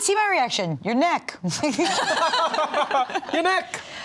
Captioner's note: all laughing